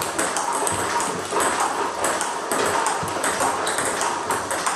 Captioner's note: ball ping pong hitting continues